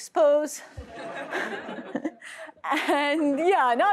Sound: laughter

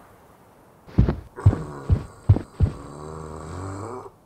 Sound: footsteps

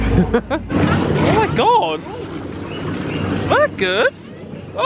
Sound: laughs

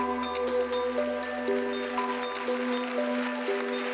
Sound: applause

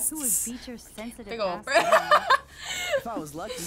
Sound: laughs

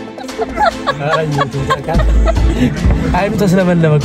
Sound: laughter

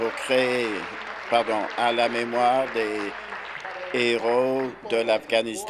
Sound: applause

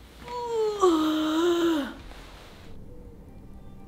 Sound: groans

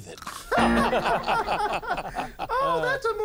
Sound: laughter

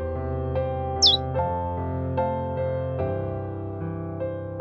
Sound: bird chirps

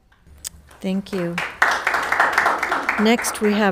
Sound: audience applauding

